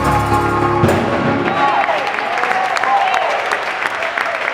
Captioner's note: applauding